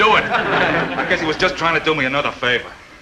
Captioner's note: audience chuckling